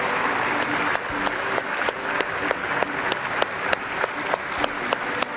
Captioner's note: audience applauds